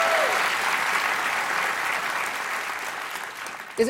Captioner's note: applause